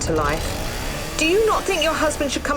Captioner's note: chainsaw motor revs